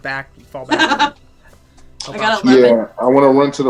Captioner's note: laughter